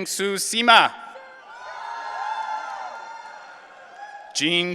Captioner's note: audience cheering